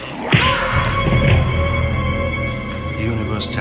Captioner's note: smacks